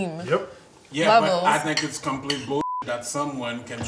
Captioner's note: beep